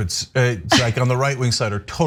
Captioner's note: laugh